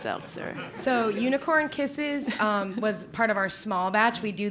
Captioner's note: laugh